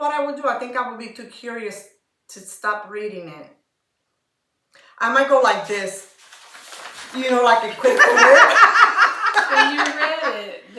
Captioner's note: laughter